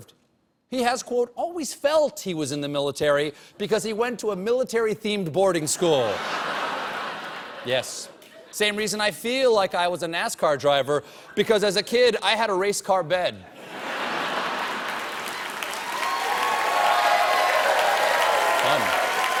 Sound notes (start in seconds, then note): 5.7 laughter; 14.5 cheers and applause